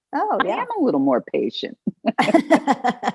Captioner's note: laughter